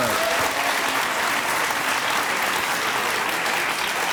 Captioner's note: audience cheering